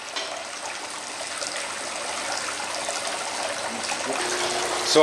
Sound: water running

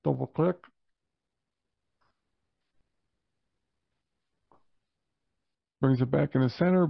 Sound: silence

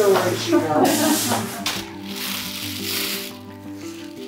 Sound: laughter

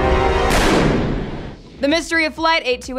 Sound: gun shot

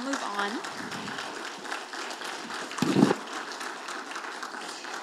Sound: audience applauding

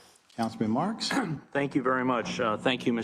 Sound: cough

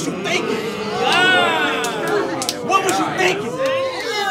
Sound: audience shouts

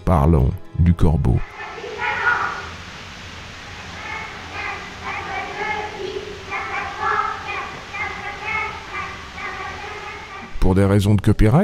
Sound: child noises

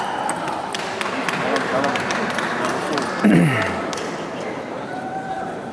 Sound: applause

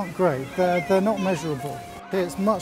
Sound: children playing

